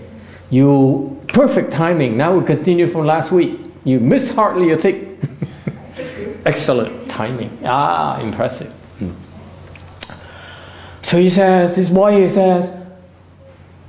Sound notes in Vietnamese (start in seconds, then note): 5.2 laughter